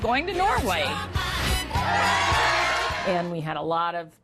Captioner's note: crowd cheering